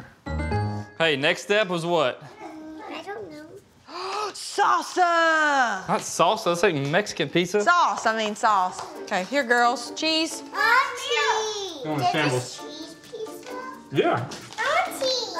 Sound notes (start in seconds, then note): 3.9 gasps